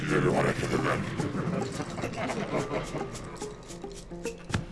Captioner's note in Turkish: Uğultulu gülme sesleri